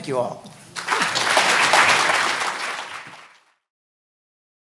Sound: audience applauding

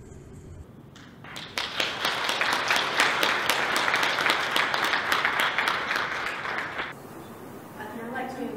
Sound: applause

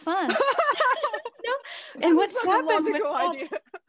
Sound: all laughing

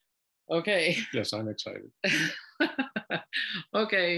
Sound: laughter

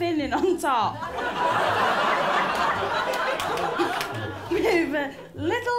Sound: laughter

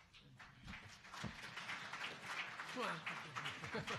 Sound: applause

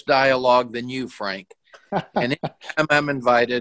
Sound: laughs

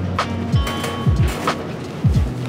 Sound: cart wheels clanking; gentle music continues

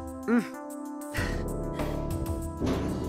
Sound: relieved sigh

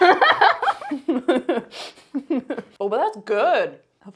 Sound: both laugh

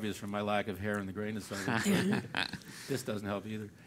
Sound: laugh

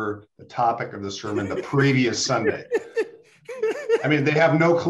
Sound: laughs

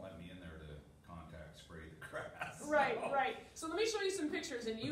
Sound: laughter

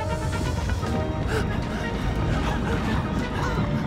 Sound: <i> panting</i>

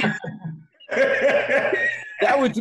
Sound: laughing

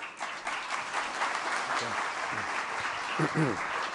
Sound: applause

